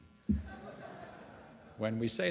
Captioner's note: laughter